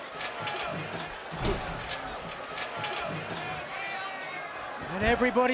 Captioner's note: metal rattling; fans chattering